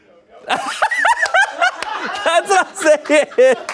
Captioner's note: laughs